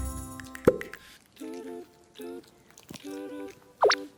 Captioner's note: smacking lips